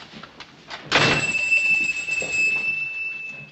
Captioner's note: door slams, bells ring